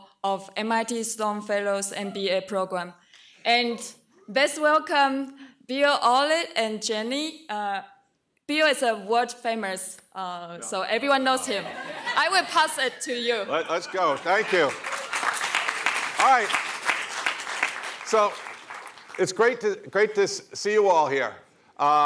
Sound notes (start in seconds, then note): 14.0 applause